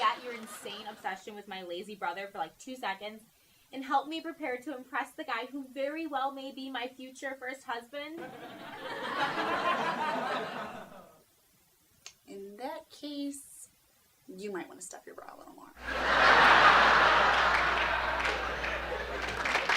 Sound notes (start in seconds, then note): 15.8 audience laughing; 19.5 audience applauding